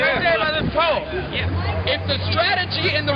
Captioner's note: voiceover